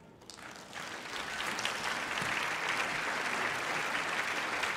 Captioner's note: crowd applauding